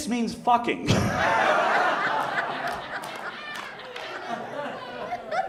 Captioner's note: audience laughs